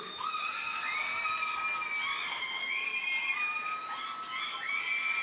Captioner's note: audience cheers and applauds